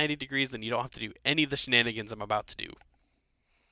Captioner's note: voiceover